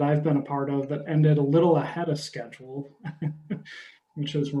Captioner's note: chuckles